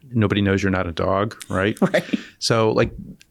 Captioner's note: laughing